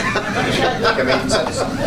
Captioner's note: laughter